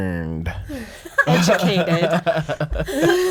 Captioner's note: group laughing; laughing